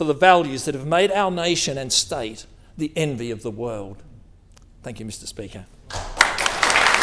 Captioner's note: applause